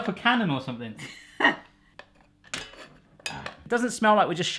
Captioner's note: laughing